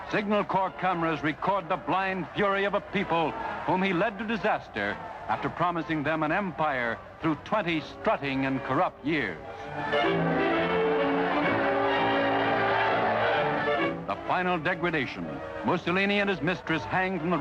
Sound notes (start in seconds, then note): 11.5 crowd cheering; 11.5 dramatic music